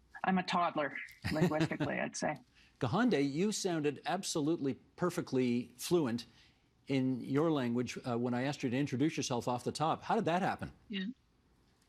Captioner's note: speaking kanien:keha'ka